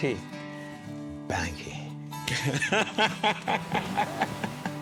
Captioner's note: laughs